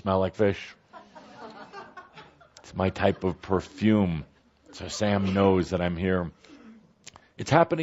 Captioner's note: laughter